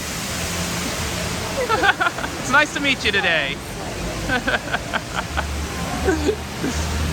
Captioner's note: laughs